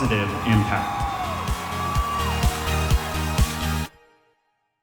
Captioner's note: cheering